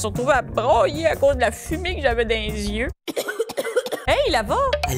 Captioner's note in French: toussotements